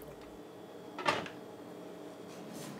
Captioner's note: clattering